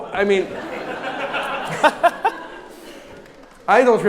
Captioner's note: audience laughs